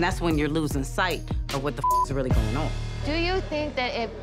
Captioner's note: beep